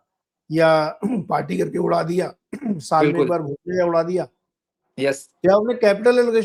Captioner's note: sound of clearing throat